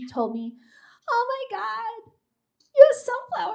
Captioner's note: mimics high pitched voice